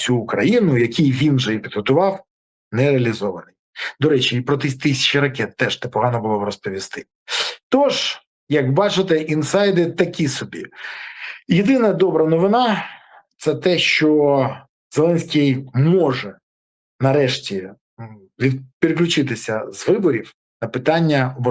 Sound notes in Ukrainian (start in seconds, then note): 7.3 сопіння